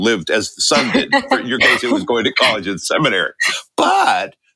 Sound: laughter

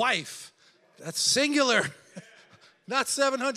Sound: laughs

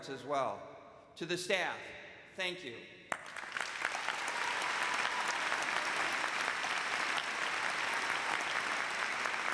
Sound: cheers and applause

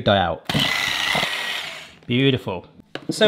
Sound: whisk whirring

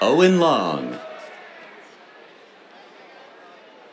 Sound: cheers

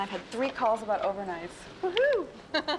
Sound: whooping

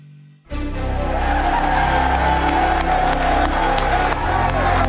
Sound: heroic orchestral music; crowd cheers

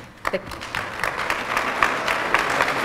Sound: applause

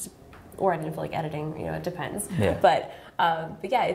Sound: laughs

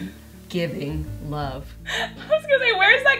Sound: Coleen laughs

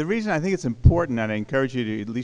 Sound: voiceover

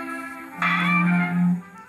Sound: creak

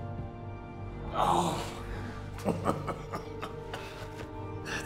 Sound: chuckles

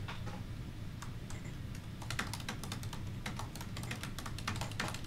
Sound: keyboard clattering

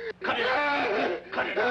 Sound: Roy screaming

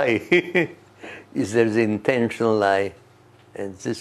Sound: laughs

